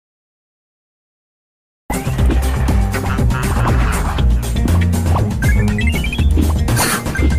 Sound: game sound effects

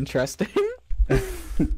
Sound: chuckles

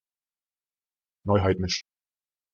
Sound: fast Pronunciation

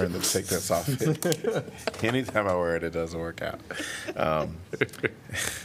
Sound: laughter

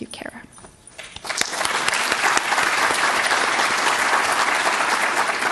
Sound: audience clapping

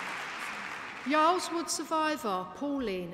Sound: applause

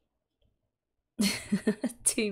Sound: laughs

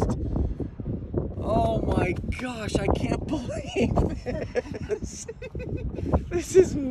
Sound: laughs

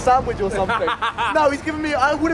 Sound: laughing

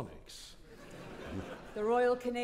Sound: audience laughing

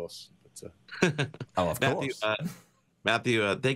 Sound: chuckles

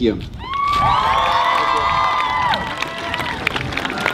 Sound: audience cheers

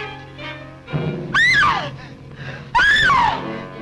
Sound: screams

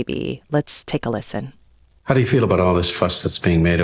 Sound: soundbite of archived recording

